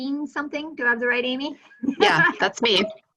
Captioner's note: laughing